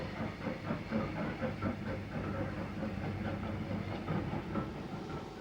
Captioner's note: train passing